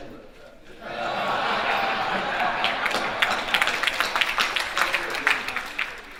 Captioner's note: audience laughing and applauding